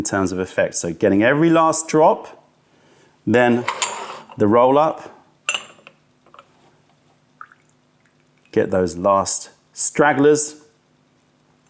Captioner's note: pouring tea